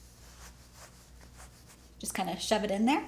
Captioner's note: cloth rubbing against jacket